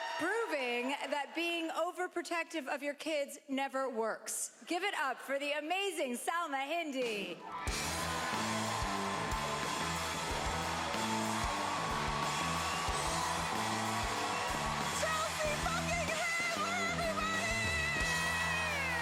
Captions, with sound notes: Proving that being overprotective of your kids never works. Give it up for the amazing Salma Hindy. (cheering) (upbeat music) - Chelsea fucking Handler, everybody!